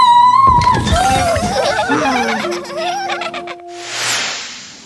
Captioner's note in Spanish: Risas